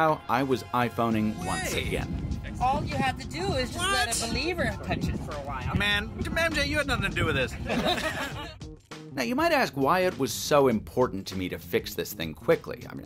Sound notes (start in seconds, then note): 2.6 people mumbling; 7.5 laughs